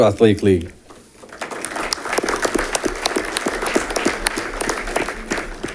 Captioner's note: audience clapping